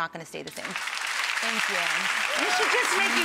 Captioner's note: audience applauds